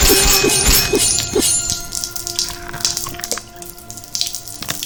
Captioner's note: blood dripping